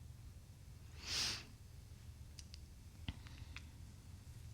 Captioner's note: Sandy sniffs